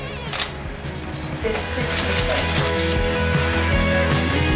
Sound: camera shutter clicking

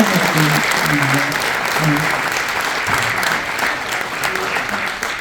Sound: audience applauding

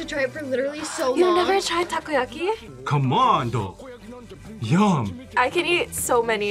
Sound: gasps

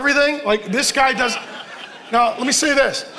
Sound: congregation laughing

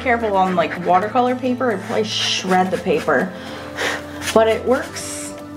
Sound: blows

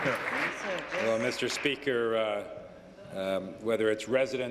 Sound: applause

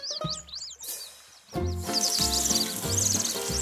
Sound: spraying sounds; birds chirp

